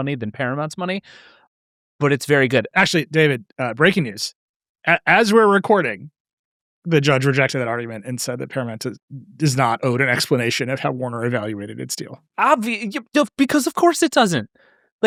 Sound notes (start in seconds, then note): none